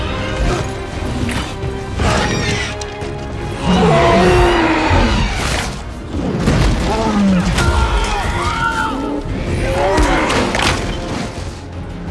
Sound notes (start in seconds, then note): 3.5 growls; 7.0 soldiers screaming